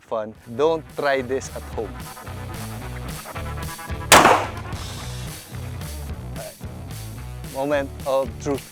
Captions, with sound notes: Don't try this at home. (gunshot) All right. Moment of truth.